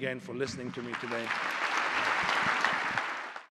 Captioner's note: applause